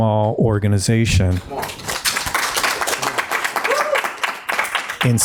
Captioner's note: audience applauding